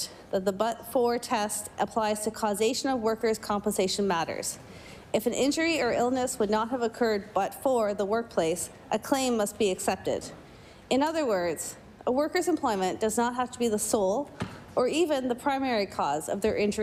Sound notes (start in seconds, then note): none